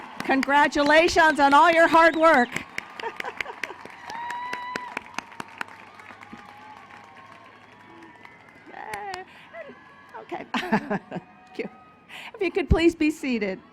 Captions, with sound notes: Congratulations on all your hard work. [ Applause ] Okay. If you could please be seated.